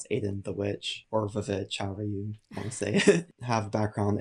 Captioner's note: murmurs; chuckles